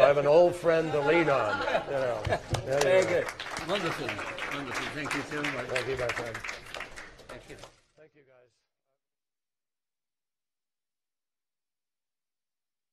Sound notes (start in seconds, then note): 0.9 laughter; 5.5 applause